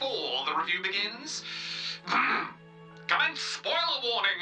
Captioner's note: clears throat